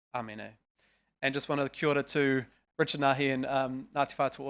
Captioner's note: speaking foreign language